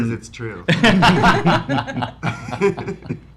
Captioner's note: laughs